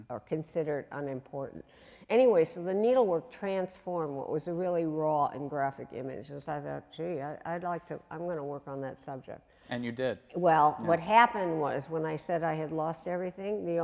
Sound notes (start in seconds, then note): 7.0 voice muffled